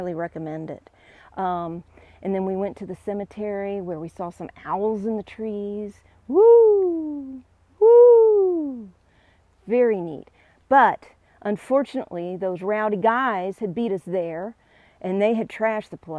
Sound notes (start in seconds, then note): 7.8 hoot hoot